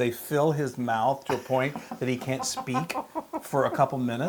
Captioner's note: laugh